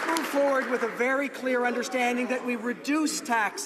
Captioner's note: some Applause